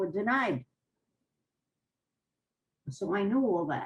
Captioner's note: pauses for 3 seconds